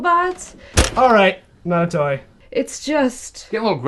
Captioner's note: plastic clunk